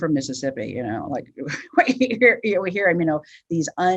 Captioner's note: chuckles